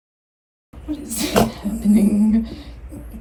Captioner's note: dog sneezes